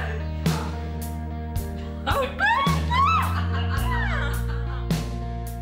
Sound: excited noises; laughing

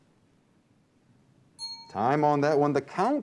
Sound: timer ding

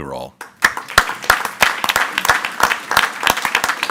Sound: group applauding

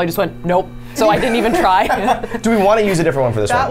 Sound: laughs

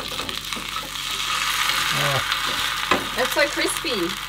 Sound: food sizzling

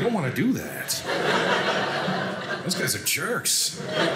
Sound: audience laughing

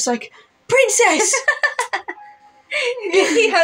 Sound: laugh

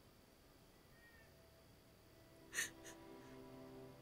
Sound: crying

